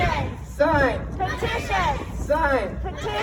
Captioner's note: crowd